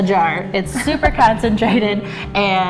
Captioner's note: laughs